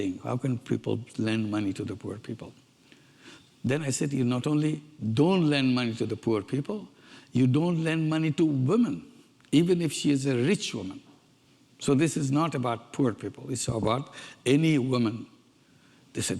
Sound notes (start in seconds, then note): none